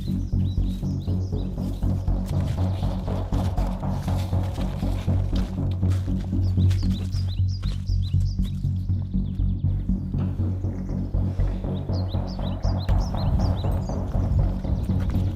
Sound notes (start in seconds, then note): none